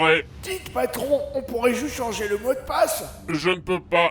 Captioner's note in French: chuchotant